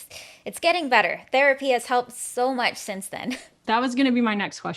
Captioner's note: chuckles